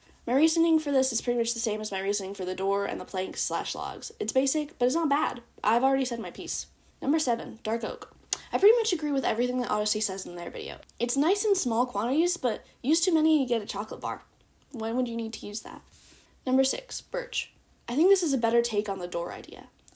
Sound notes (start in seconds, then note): none